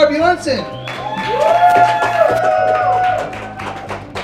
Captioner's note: cheers, applause